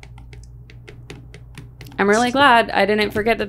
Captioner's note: markers scribbling rapidly